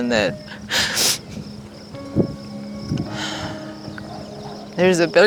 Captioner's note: crying